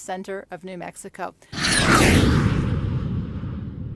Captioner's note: jet sound